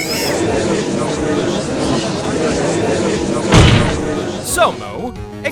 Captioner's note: gallery chattering